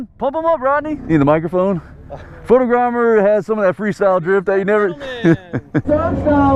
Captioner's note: laughing